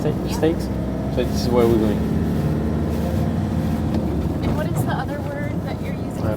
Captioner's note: car movement rattles and whirring engine sounds